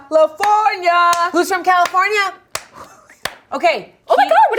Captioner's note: claps